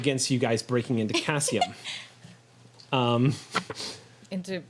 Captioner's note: laughs